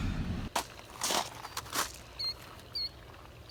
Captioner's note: feet crunch gravel; bird chirp